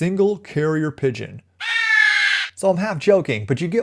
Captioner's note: pigeon coos